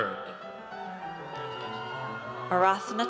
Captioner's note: audience cheers